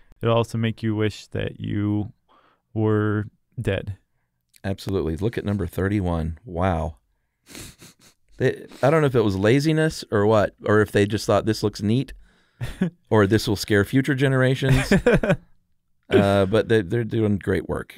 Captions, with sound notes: It'll also make you wish that you were dead. - Absolutely. Look at number 31. Wow. (laughter) I don't know if that was laziness or what. Or if they just thought, "This looks neat." Or, "This will scare future generations." But they're doing great work.